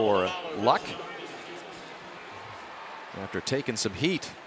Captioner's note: pa announcement